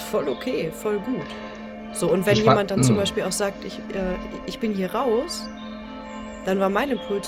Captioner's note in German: räuspern